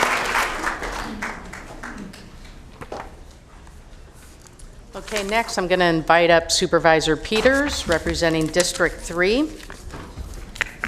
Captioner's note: applause